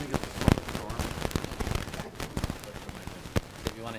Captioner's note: audio intereference